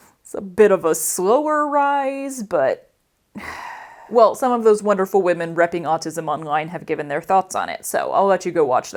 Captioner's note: sigh